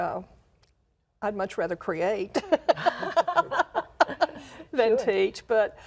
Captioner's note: laughs